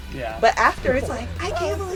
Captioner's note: laughs